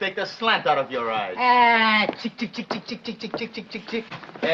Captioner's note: imitates clucking chicken